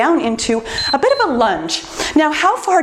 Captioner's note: timer beeps